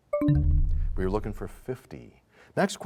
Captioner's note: bell chimes, time expires